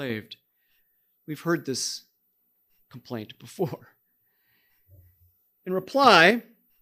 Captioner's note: chuckling